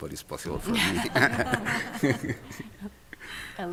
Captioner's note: laughter